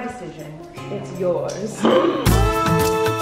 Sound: gasping; upbeat music

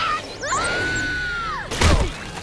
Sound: screaming

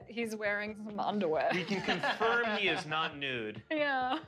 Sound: laughter

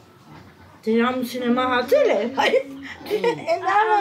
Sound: speaking Armenian

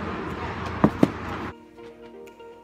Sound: record thuds back into bin

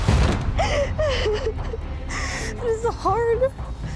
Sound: tense music; sobbing

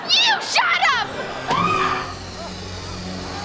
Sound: screaming

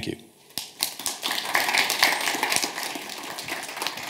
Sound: audience clapping

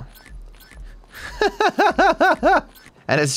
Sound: laughs

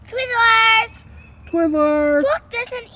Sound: voiceover

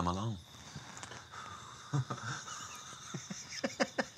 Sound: both laugh

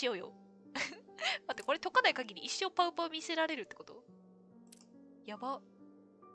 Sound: laughs

